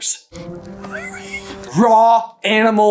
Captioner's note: whimper